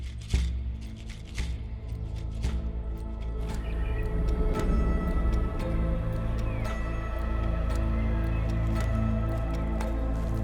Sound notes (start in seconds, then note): 2.8 birds chirping; 7.0 gentle upbeat music